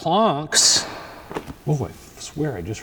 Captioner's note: floor creaks